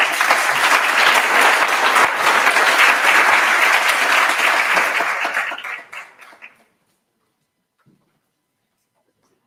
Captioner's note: applause